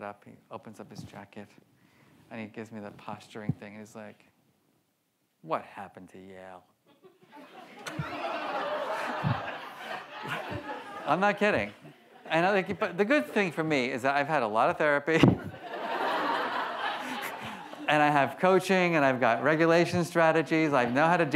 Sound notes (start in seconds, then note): 7.0 laughs; 7.0 audience laughs; 15.2 laughs